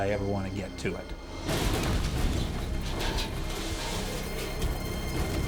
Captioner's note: airplane clashes